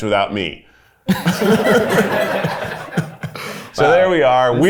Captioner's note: everyone laughs